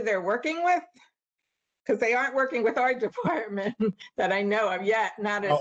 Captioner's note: laughter